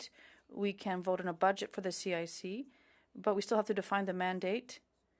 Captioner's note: speaking French